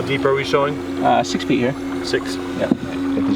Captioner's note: water splashing